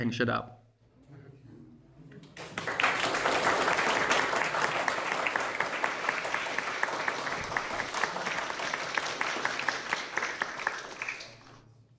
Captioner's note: clapping